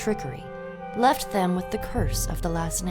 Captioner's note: none